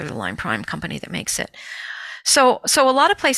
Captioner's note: none